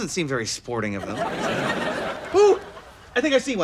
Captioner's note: laughs